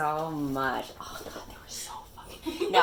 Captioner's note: whispering